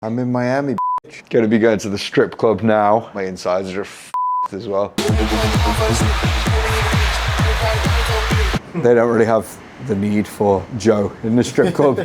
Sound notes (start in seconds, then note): 0.8 beep; 4.1 beep; 5.0 upbeat EDM music